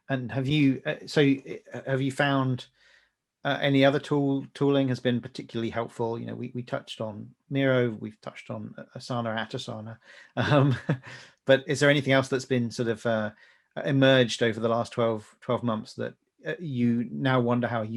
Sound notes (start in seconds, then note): 10.1 laughing